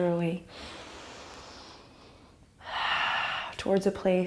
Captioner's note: deep breath